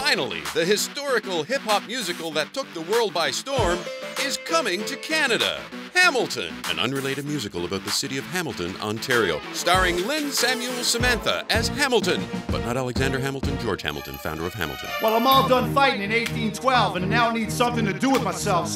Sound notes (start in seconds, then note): 0.1 voiceover